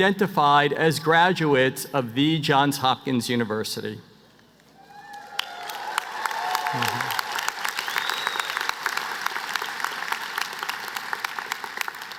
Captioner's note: applause